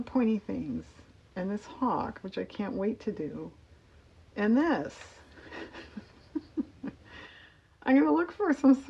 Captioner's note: laughs